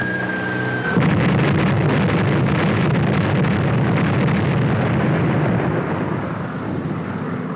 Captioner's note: explosions